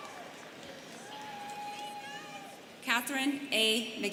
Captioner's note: students chattering